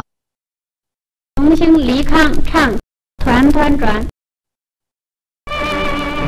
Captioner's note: announcer in Mandarin